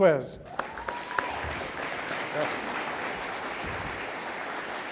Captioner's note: audience applauding